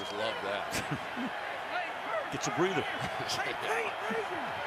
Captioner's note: chuckles